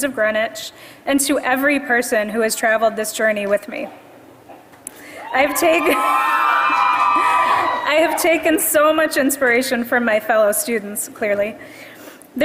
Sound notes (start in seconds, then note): 5.5 laugh; 6.4 applause